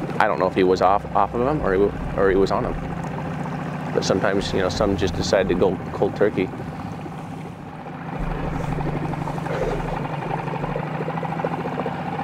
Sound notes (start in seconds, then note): 7.5 boat spluttering